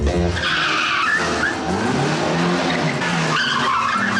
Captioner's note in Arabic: اصوات صرير الاطارات